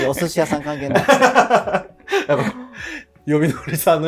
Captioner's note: laughing